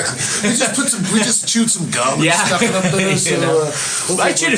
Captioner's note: laughing